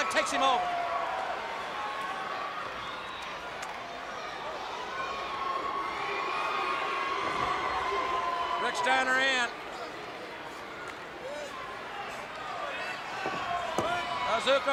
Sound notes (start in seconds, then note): 1.0 crowd cheering